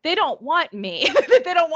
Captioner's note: chuckling